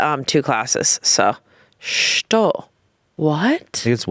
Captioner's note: speaking foreign language